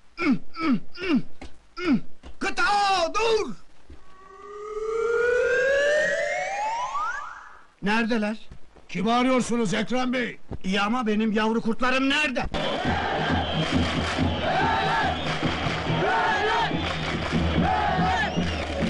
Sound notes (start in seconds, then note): 12.5 Fenerbahçe fans cheering for their team